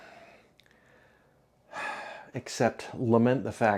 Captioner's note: epic sigh conveying all the emotions of the human experience